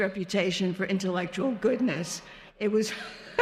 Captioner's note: laughing